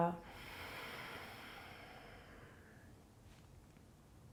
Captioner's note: exhaling